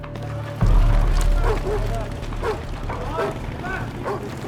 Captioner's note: dog barking